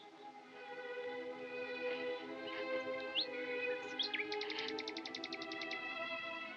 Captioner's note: quiet sobbing, sniffling